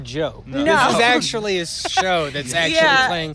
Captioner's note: laughter